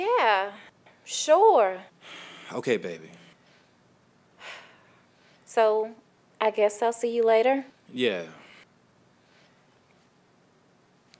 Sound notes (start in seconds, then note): none